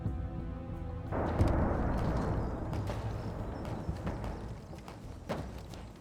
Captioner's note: distant gunfire, cannon fire